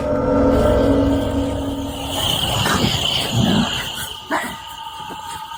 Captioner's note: crickets chirping; voice snarling; voice barks